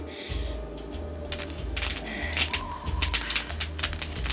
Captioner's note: sparking